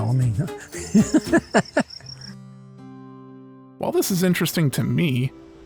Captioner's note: laughs